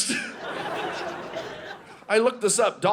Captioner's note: audience laughing